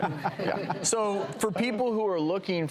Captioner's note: panel laughs